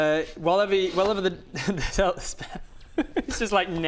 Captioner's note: giggles